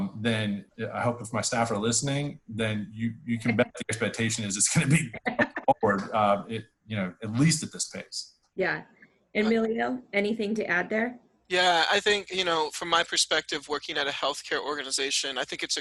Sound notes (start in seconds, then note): 4.7 laughs